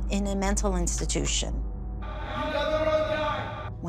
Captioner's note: voice echoes